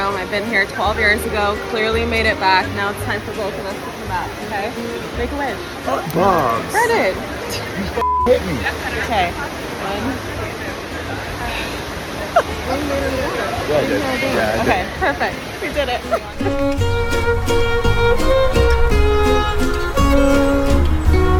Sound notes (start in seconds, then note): 8.0 beep; 16.0 laughs; 16.1 romantic music